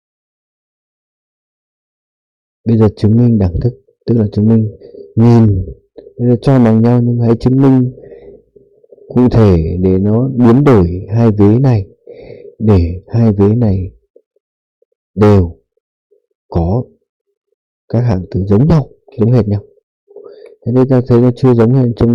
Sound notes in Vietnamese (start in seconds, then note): 12.5 khịt mũi